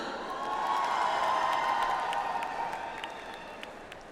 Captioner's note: audience applauds